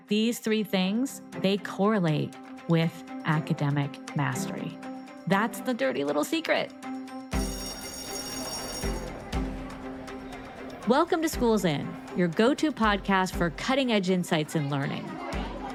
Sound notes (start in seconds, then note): 7.2 bell ringing; 7.6 bright music; 8.3 people chattering; 9.5 bright music